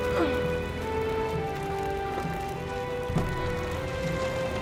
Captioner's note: Lisa grunting